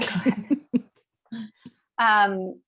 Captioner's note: laughter